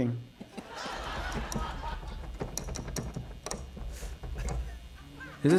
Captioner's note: tapping; laughter